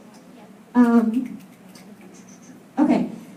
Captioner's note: snaps from audience